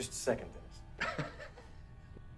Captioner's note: nervous chuckle